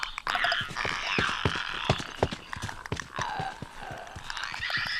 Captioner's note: intense trampling